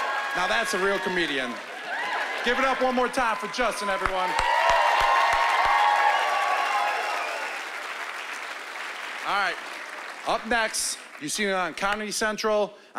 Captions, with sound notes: Now that's a real comedian. Give it up one more time for Juston everyone. (cheering and applause) All right. Up next, you've seen him on Comedy Central,